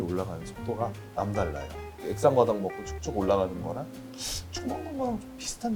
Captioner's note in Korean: 콧방귀